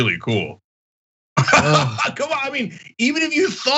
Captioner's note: laugh